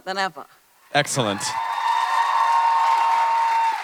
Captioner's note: audience cheering